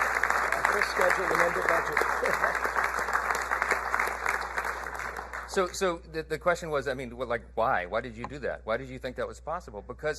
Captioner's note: applause